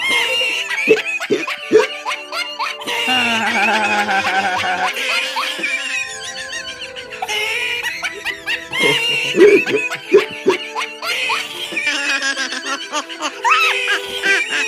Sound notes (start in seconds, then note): 3.0 Everyone Laughing At Luigi